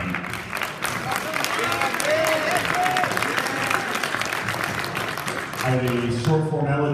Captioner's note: applause